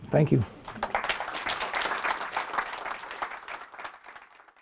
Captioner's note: applause